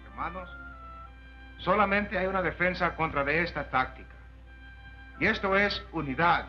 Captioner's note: Charley speaking Spanish